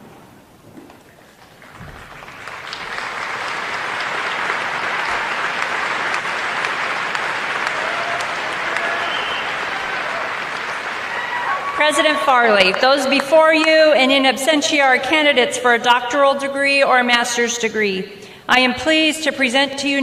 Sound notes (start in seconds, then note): 1.2 applause